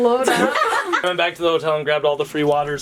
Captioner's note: laughing